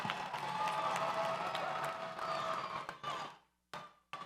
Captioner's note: audience cheers